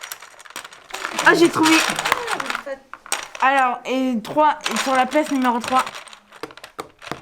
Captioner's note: speaking in foreign language